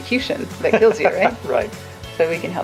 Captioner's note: laughs